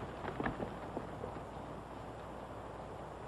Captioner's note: horse hooves